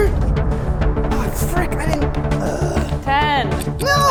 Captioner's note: groans